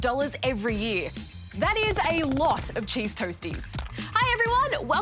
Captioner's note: crunch!